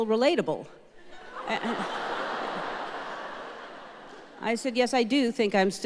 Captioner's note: audience laughing